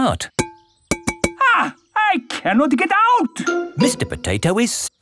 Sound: knocking on window

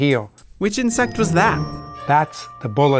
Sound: voiceover

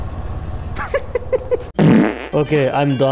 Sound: laughs again

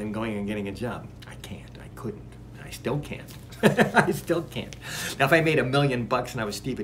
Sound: laughs

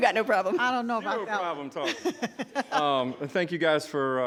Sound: laughs

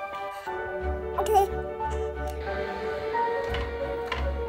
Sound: coos

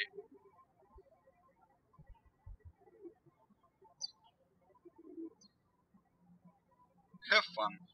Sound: birds chirping

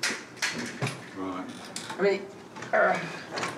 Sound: grunts

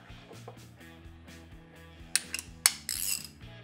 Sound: cranking

